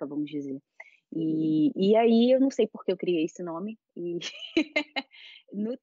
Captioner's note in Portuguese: risos